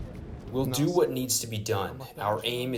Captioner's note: through translator